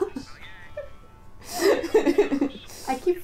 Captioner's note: laughter